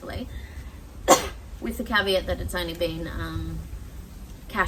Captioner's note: coughs